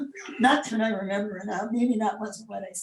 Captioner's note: laughs